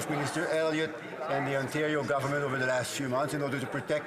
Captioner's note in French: voix de l'interprète